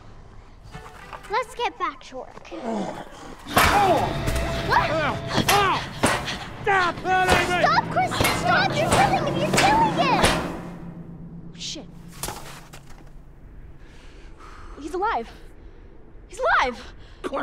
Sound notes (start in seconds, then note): 2.9 Santa groans; 3.5 shovel smack; 3.8 Santa groans; 5.1 Santa groaning; 5.1 shovel thudding; 13.7 Santa breathing heavily